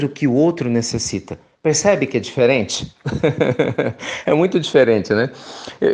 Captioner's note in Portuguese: risos